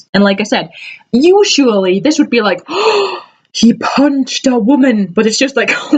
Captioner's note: gasp